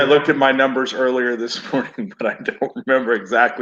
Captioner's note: chuckles